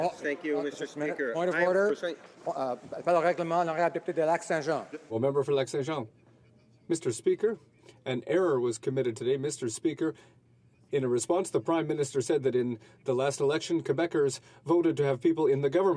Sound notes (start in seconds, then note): 7.0 speaking French